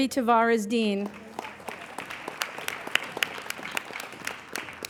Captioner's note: applauding